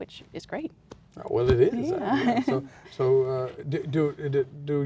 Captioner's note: laughs